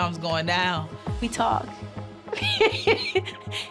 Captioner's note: laughing